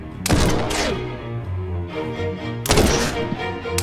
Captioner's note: gunshots banging